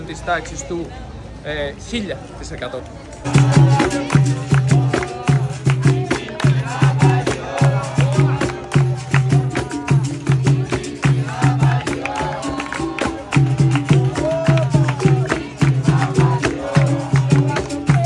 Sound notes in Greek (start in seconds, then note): 12.5 χειροκρότημα